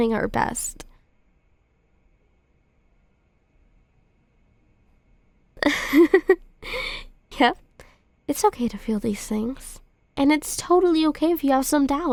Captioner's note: soft laugh